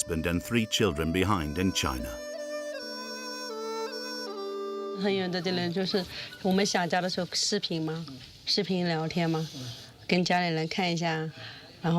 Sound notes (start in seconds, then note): 2.5 soft Asian music; 4.9 speaking foreign language